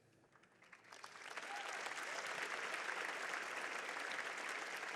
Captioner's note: audience applauding